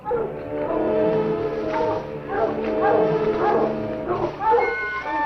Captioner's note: dogs barking